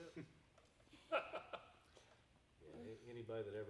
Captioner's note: laughing